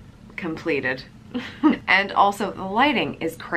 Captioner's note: laughs